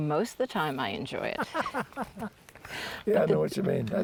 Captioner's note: laughter